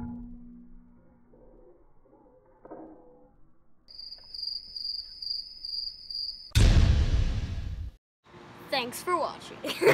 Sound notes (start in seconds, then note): 3.9 crickets